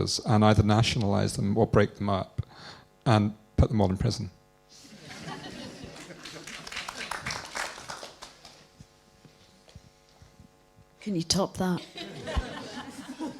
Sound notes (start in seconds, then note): 4.8 laughter & applause